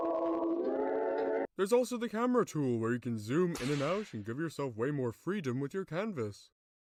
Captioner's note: whip sfx